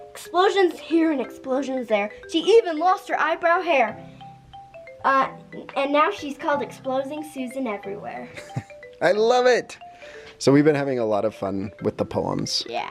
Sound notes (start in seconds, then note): 8.3 dad laughing; 8.3 gentle music